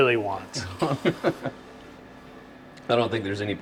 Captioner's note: chuckling